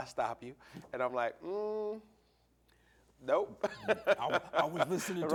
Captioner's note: laughing